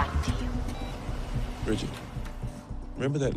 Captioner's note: phone beeps